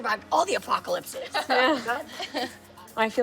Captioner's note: laughing